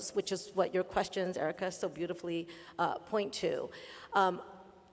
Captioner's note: none